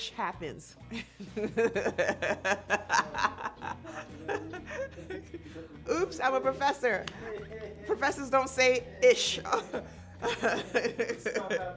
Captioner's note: laughter